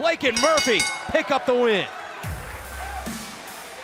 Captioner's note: bell